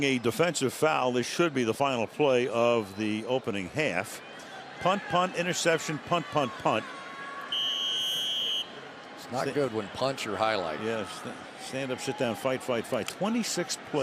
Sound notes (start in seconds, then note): 7.5 whistle